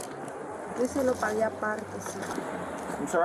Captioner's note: speak in Foreign language